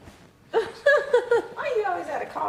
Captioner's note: laughing